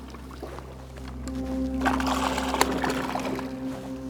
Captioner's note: water splashing; suspenseful music continues